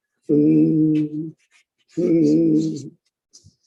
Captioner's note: humming